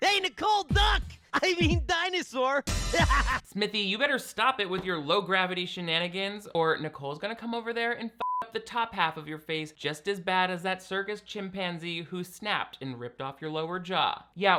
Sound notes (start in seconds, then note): 3.0 laughs; 8.2 beep